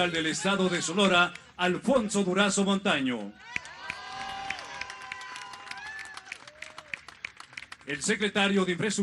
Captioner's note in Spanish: aplausos